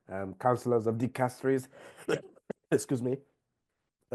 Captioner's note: coughs